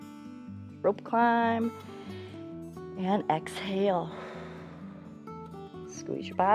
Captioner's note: exhales